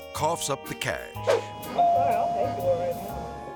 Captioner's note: air swoosh; doorbell ringing